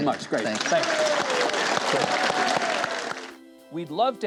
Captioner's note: audience applauding